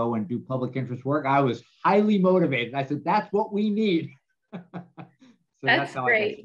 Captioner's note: laughs